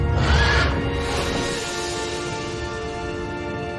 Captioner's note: dinosaur screeching; exciting music